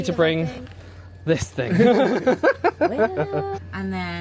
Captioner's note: laughs